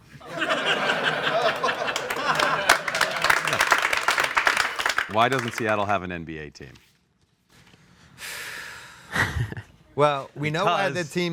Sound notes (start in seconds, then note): 0.0 audience laughs and applauds; 8.2 doug laughs; 8.2 exhales